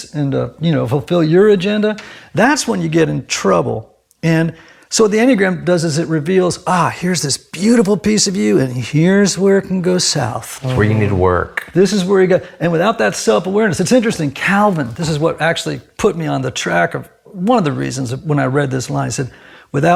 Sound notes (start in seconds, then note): none